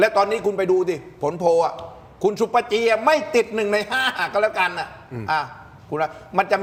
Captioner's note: laughs